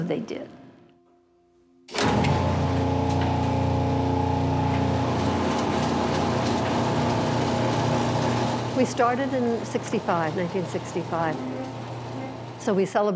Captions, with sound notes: And so they did. (machine sounds) We started in '65, 1965.